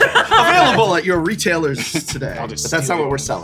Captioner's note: laugh; laughter